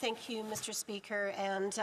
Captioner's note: speaking French